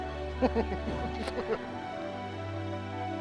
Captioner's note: laughs